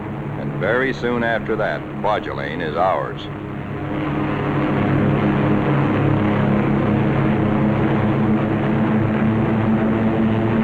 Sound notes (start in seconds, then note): 6.3 sounds of gunfire and aircraft engines